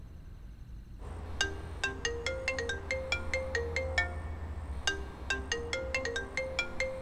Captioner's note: Phone ringing